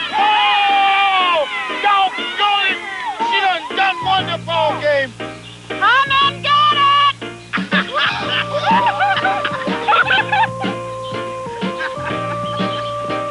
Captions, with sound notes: Whoaaaaaa! Doggonit! She done won the ballgame! (shouting) Come and get it! [laughter and cheering]